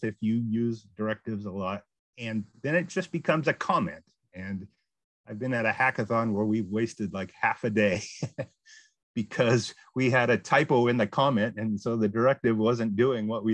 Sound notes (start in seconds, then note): 7.9 laughs